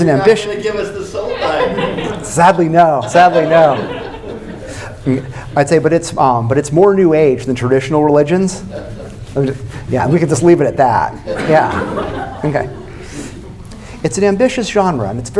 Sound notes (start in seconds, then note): 2.9 more laughter; 11.2 more laughter